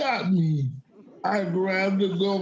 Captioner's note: audience laughing